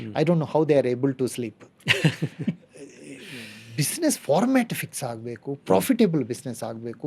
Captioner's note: laughs